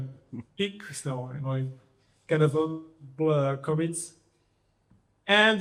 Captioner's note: audio glitch